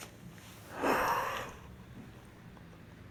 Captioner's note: laughs to herself